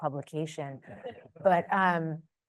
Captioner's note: audience chuckles